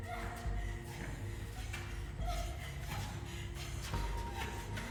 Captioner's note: Alex gasping fearfully